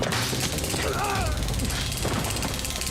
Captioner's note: taser buzzing; grunts